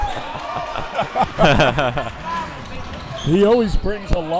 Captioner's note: both laughing